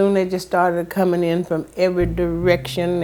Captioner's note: soundbite of archived recording